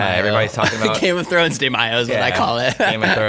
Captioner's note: laughs